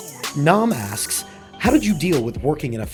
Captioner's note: voiceover